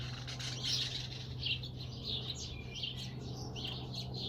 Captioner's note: birds chirping